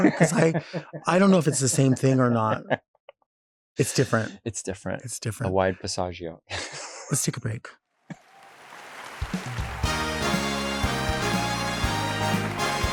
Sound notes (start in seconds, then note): 8.1 audience clapping; 9.2 lively music